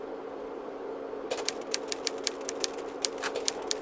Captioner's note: typewriter keys clack